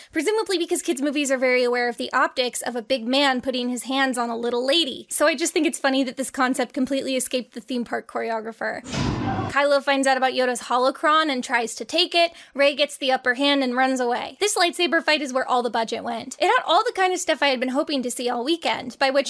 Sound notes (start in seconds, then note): 8.9 head thuds